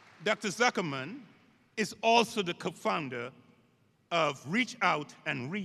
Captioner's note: applause